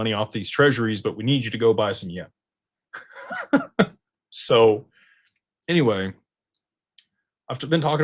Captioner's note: laughter